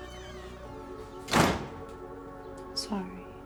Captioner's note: door shuts closed